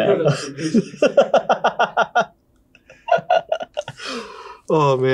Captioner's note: crew laughing; laughing